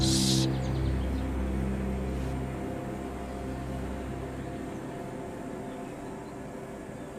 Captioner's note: birds chirping; light dramatic music